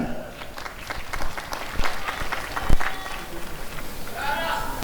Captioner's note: applause and cheering